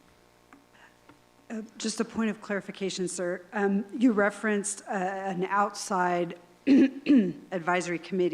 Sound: clears throat

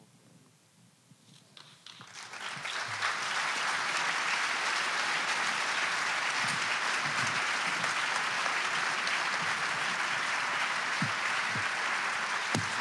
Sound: applause

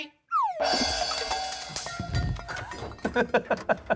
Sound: items crashing in background; laughs

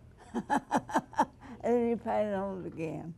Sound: laughs loudly

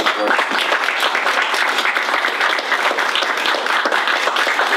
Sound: attendees applaud

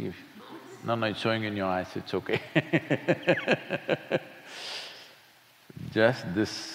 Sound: laughs

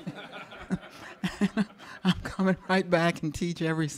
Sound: audience laughing; laughs

